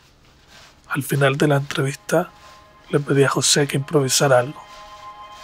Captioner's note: narrator speaks Spanish